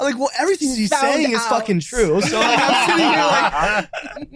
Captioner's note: group laughs loudly